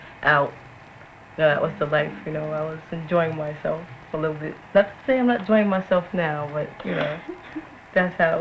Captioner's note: giggles